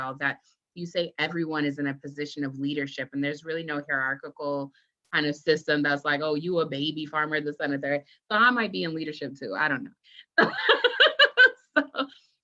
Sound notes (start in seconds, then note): 10.9 laughs